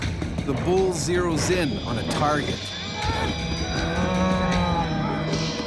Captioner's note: voiceover